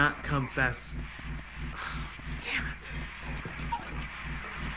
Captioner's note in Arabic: تنهدات